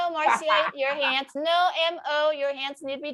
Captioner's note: laughing